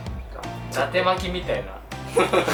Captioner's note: laughs